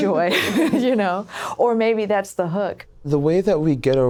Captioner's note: laughter